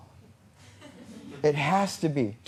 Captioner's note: laughter